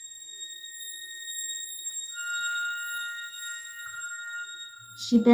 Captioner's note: high-pitched whistling intensifies